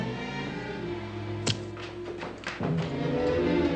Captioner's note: thud